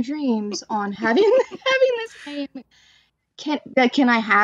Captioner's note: laughter